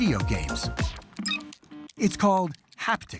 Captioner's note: video game beeping, controller clicking